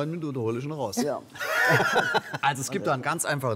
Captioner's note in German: Lachen